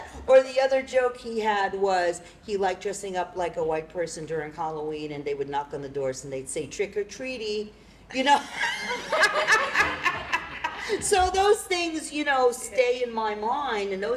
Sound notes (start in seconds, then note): 8.4 laughter